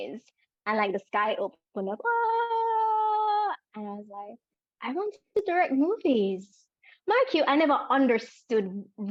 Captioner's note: sounds of joy